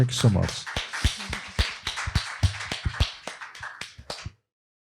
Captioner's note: applause